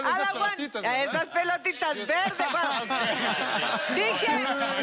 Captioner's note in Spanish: Risas